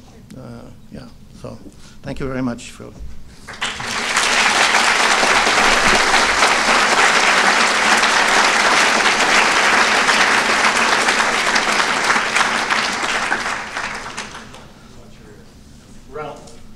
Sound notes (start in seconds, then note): 3.4 applause